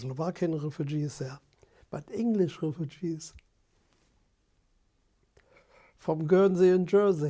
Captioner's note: pauses for 3 seconds